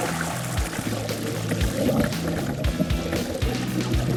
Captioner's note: water bubbling